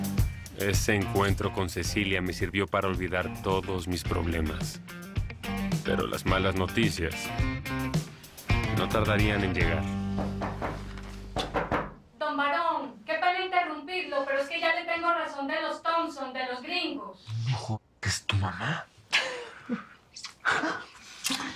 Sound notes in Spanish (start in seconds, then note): 11.3 Llaman a la puerta; 20.2 Ríe